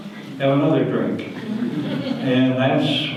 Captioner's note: audience laughter